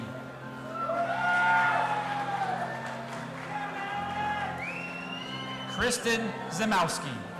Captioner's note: audience applauding and cheering